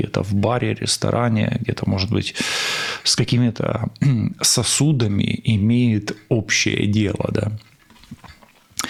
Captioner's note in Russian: откашливается